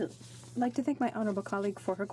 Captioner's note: speaking French